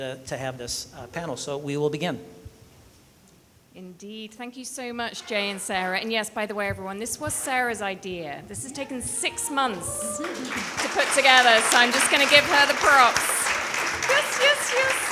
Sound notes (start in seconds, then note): 10.0 people cheering; 13.3 people clapping